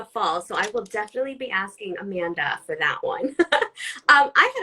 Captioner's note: laughs